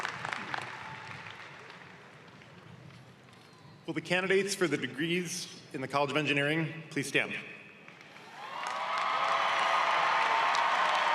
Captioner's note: cheering and applause